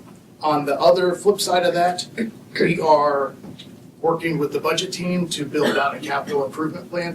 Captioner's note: clears throat